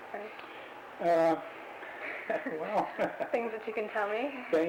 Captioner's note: both laugh